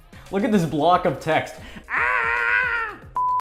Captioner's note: beep